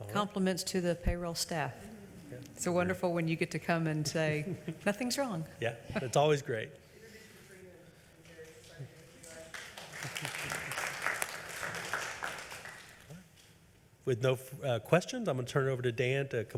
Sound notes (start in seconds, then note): 8.2 clapping; 10.1 audience applauding